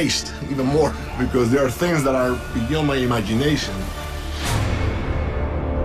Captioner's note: none